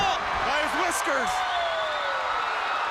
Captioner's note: crowd cheering